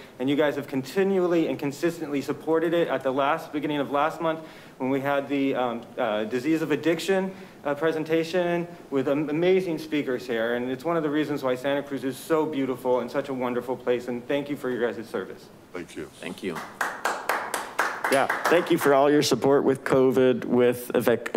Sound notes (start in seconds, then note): 18.1 attendees applaud